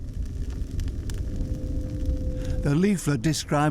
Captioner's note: fire crackles